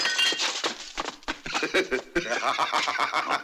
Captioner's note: laughing